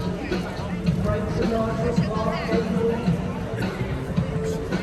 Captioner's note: bright music; people chattering